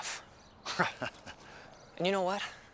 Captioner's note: Bill chuckling